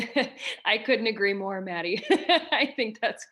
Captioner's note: laughs